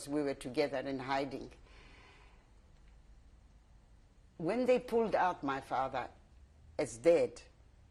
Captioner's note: pauses for 3 seconds